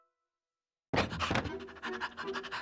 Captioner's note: panting